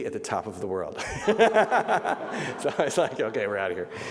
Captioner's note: laughing